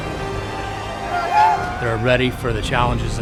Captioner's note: yelling